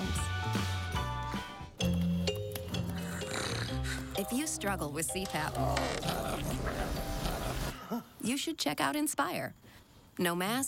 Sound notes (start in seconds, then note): 2.8 snorting; 5.3 groan; 5.4 growling; 6.2 chuckle